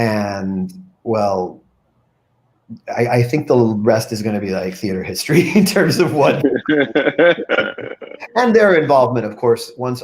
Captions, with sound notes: And well... I think the rest is gonna be like theater history (laughs) in terms of what. (group laughing) And their involvement, of course,